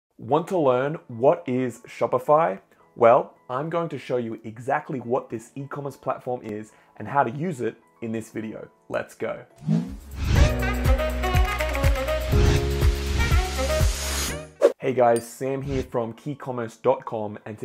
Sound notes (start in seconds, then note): 9.6 air whooshing; 10.3 upbeat melodic music